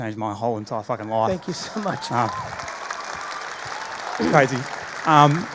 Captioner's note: audience applauding